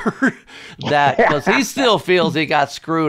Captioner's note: laughs